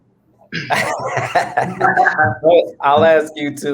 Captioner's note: laughs